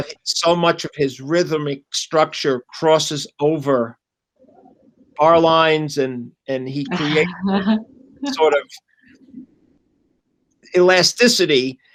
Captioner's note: laughter